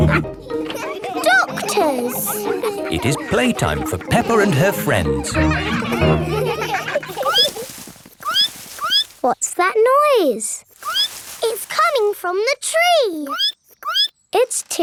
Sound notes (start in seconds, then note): 0.0 all laughing; 5.9 all laughing; 6.5 squeaking; 10.8 squeak; 13.9 squeaking